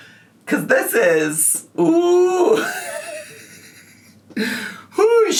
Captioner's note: laughs